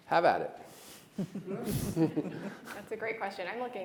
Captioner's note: all laughing